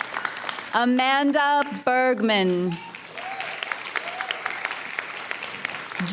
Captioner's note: audience applauds; audience cheers and applauds